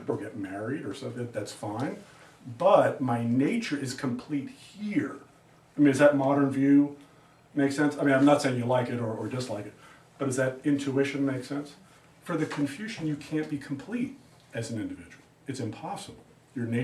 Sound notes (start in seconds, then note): none